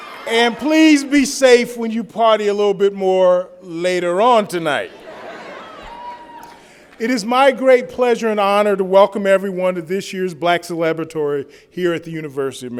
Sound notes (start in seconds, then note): 4.8 laughter